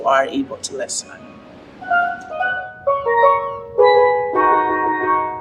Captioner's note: steelpan percussion; seagulls squeaking